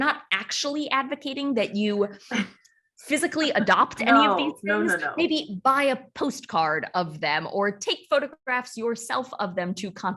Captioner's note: laughs